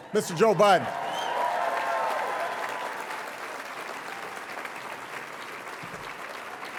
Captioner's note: audience applauding and cheering